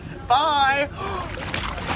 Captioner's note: gasps